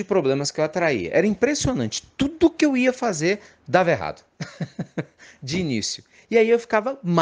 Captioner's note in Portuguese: risadas